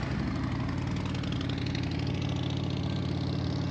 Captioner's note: engine roaring